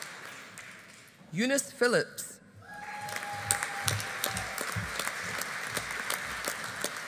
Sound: audience applauding

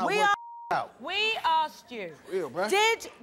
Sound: beep

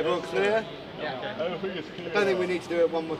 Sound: everyone mumbling assent

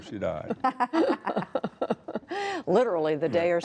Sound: laughter

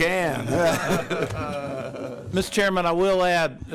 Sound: laughter

